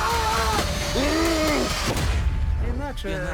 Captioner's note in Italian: urlano; grugnisce